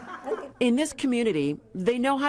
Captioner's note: laughter